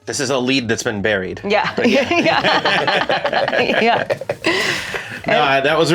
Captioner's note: all chuckle in agreement